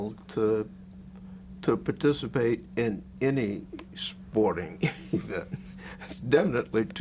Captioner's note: laughs